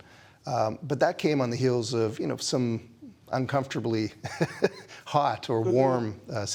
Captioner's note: laughs